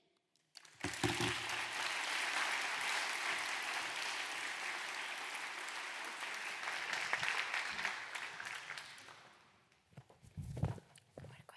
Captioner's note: applause